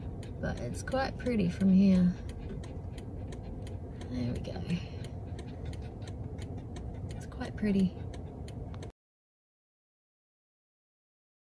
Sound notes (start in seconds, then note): none